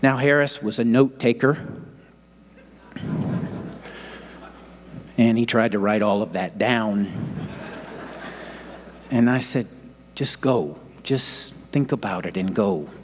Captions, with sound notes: Now, Harris was a note taker (audience laughing) and he tried to write all of that down. (audience laughing) And I said just go, just think about it and go.